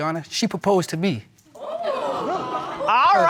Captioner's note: audience exclaiming